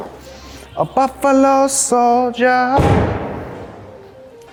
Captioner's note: car door slams shut; suspenseful music